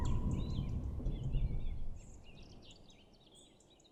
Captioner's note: birds chirping